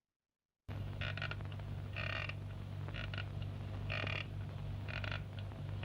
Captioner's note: creaking